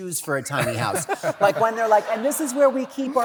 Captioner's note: laughter